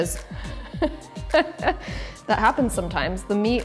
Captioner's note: laughing